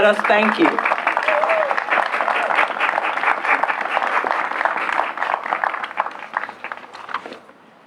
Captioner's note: applause